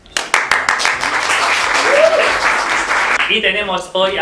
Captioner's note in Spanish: Aplauso